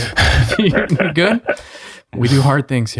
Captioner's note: chuckles